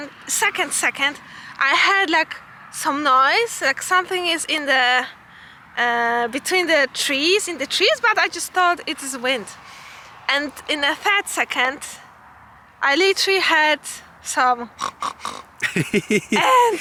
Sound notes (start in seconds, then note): 14.7 pig noises